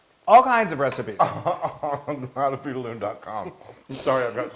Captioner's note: laugh